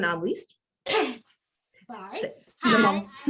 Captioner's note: coughs